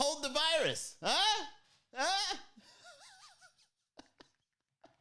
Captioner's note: laughs